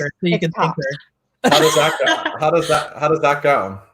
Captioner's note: laugh